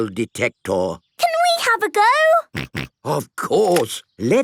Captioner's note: snorting